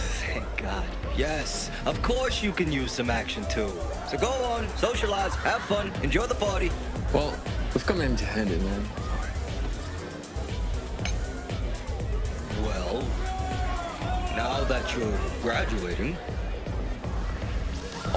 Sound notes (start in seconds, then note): 9.1 upbeat music; 11.0 glasses clanking; 11.1 upbeat music; 15.3 upbeat music